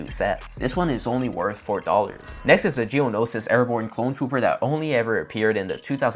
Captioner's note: sound effect